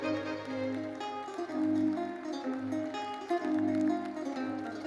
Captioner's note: lively orchestral music continues; attendees applauding